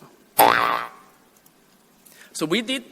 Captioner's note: boi-yoi-yong